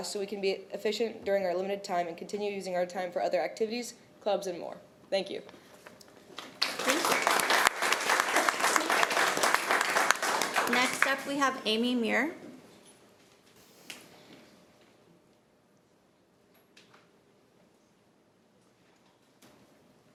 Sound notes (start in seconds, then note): 6.3 applause